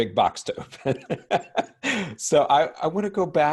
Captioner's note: laughs